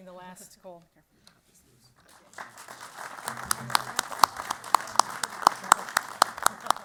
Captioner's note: applause